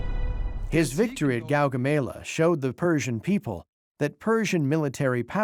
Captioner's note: in German